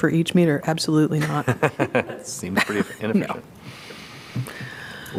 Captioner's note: laughter